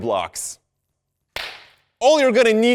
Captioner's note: clap